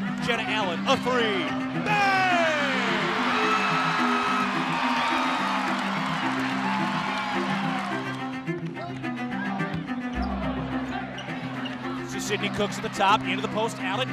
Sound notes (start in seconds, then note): 2.8 crowd cheers